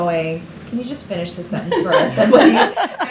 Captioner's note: laughter